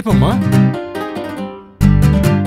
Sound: hush talk

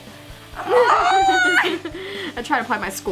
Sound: laughing

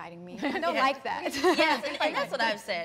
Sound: laughs

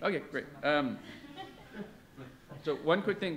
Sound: audience laughs

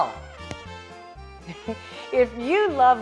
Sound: chuckling

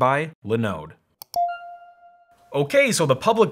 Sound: ding

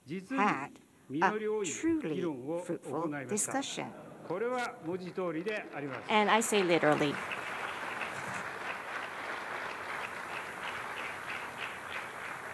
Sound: applause

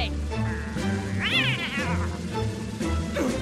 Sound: angry yowl

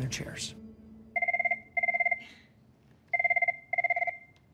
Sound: phone ringing

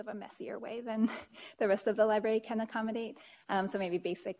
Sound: chuckles

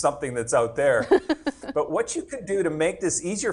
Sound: laughs

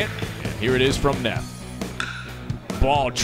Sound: crack of the bat

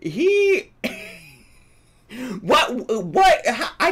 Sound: laughs

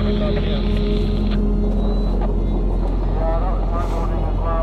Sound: radio crackling

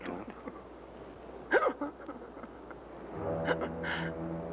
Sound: Ev sobbing; ominous music

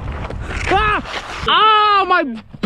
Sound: yelling

